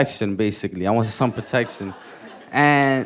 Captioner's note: audience laughing